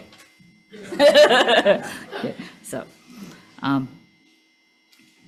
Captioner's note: everyone laughing